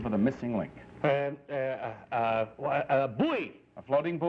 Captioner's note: stammering